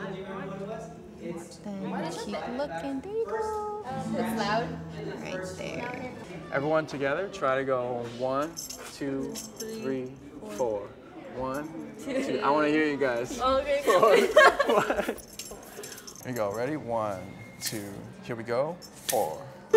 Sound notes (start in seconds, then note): 13.8 laughs